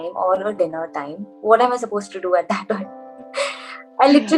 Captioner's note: laughs